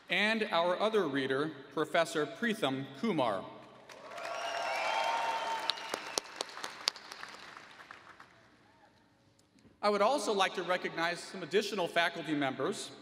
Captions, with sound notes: And our other reader, Professor Preetham Kumar. [ Applause ] I would also like to recognize some additional faculty members.